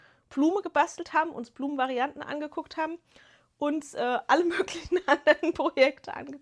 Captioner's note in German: gelächter